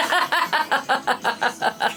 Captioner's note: laughs